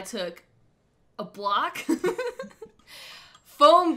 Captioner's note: laughs